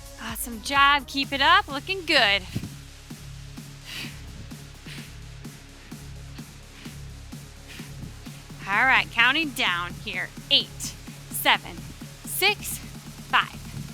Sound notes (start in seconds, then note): 2.3 breathing deeply; 2.8 upbeat music continues